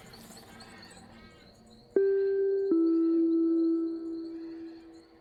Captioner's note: ding